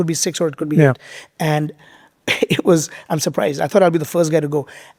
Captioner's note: chuckles